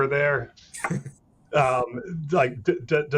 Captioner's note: laughing